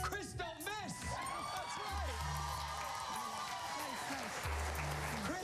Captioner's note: cheers and applause